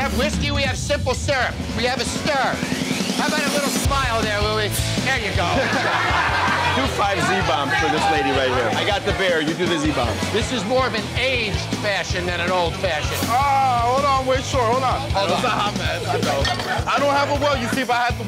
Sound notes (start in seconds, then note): 5.4 everyone laughs